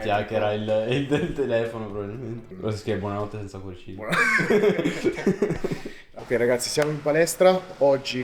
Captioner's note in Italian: risate; risate